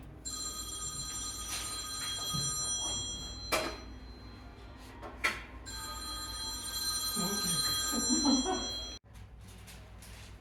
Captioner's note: laughs